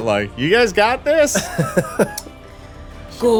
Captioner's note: laughing